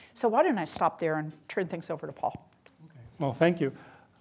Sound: none

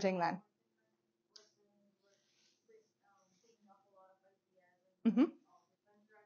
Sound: student speaking faintly

